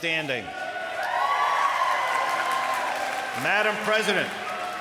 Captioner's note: applause